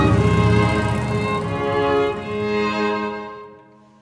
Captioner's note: motorbike roaring